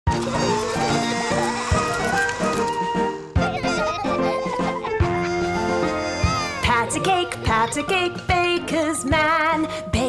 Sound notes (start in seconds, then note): 3.7 laughter; 6.9 singing